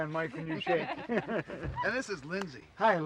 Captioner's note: laughing